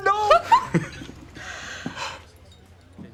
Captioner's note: both chuckle in excitement